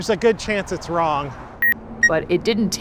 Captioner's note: button beeps